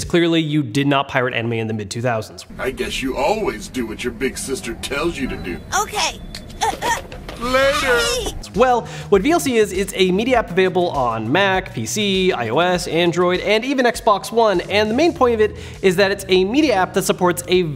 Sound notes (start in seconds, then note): 7.4 gasps